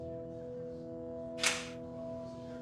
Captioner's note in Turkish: Kapı açılıyor